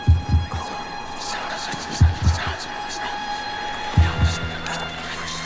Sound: ghostly voices whispering

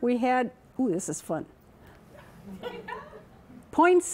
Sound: laughter

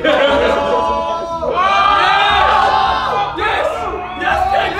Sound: group cheering

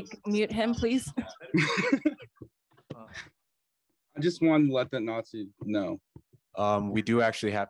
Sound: laughter

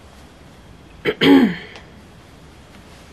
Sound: clears throat

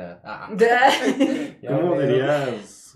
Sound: laughter

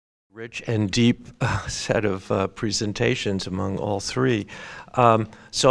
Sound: laugh

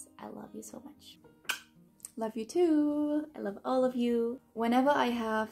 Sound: kisses

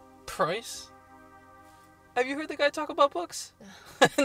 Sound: laughs

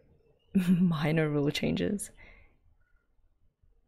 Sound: laughs

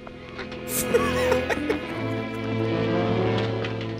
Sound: laughs

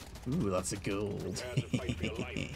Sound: laughs

